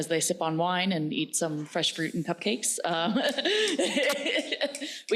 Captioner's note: laughs